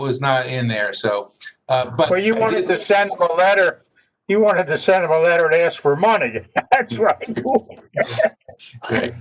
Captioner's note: laughter